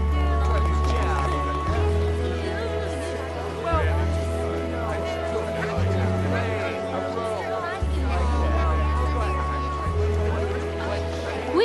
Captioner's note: background chatter